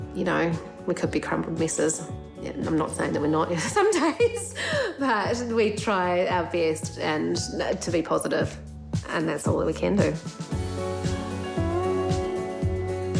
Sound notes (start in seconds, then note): 4.6 laughs; 11.1 gentle music